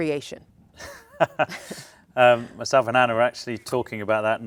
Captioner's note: laughs